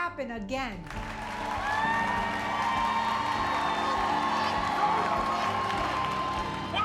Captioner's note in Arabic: تصفيق الجمهور; هتاف الجمهور